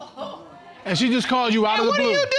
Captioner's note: audience gasps